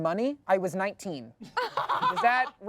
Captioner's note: laughs